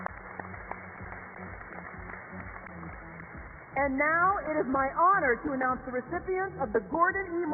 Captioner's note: applause